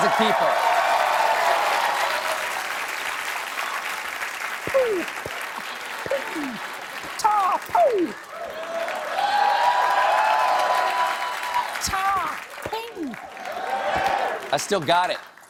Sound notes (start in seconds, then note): 0.2 cheers and applause